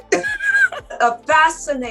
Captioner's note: laughs